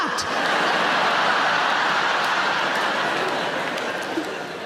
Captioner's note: audience laughing